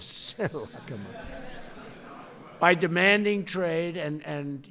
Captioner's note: laughs